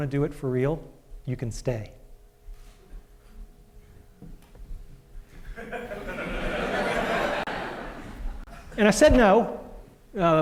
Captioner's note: laughter